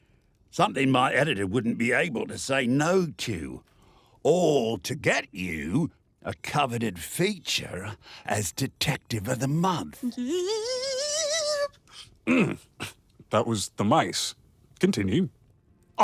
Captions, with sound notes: Something my editor wouldn't be able to say "no" to, alllll to get you... a coveted feature as "Detective of The Month". [Sherblock squeals in delight] [clears throat] That was the mice. Continue.